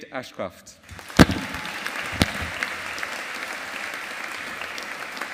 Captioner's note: audience applauding